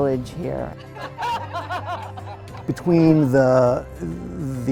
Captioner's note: people laughing